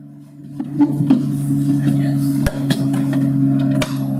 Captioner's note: sound of wooden box opening